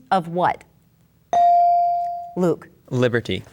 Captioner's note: bell dings